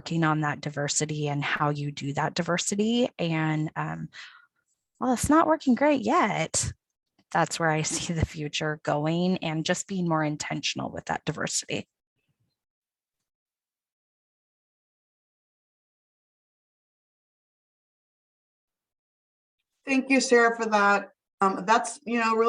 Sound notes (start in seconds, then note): 13.3 silence